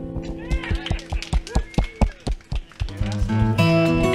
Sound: applause

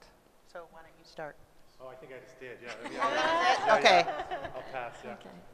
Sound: laughs

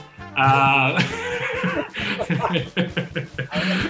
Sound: laughter

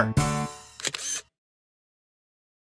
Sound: SFX: Camera Shutter

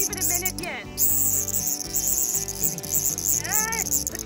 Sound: bug noises

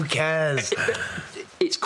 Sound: stutters

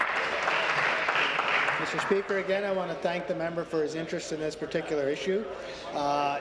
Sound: applause

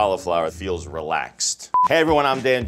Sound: TV signal beeps

